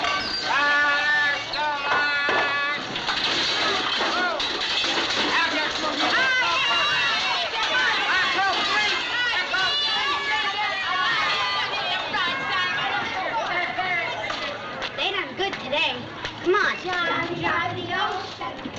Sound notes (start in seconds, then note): 5.2 man yelling; 6.0 children jeering; 16.9 girls singing